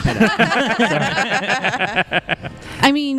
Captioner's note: everyone laughs